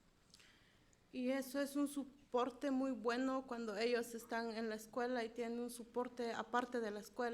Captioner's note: speaking in foreign language